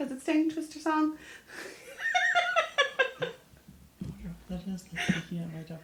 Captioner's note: laughs